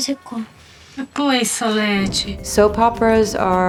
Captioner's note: child speaks in Portuguese; adult speaks in Portuguese